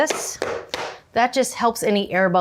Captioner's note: pans tapping